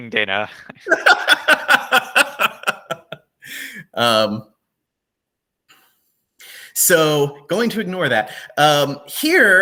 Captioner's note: laughs